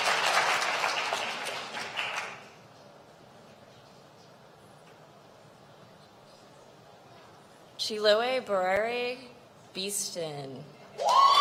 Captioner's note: applause